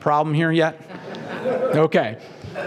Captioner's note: laugh